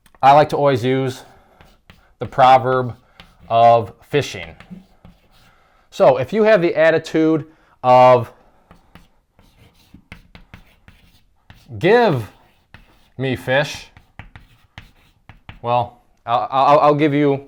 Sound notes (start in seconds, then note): 8.6 chalk writing